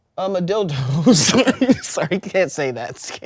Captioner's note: everyone laughs